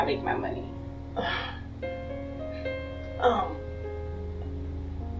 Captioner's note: grunts